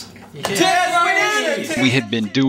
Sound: everyone cheers

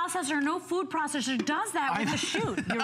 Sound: laughter

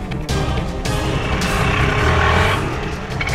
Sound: autorickshaw receding

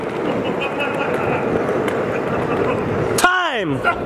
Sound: laughing

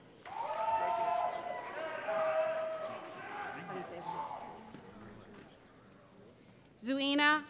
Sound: cheering

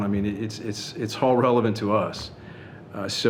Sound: none

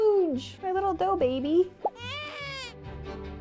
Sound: baby crying; upbeat orchestral music

